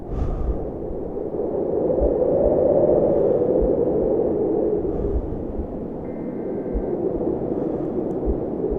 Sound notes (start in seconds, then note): 1.9 wind blows